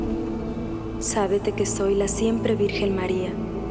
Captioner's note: speaking spanish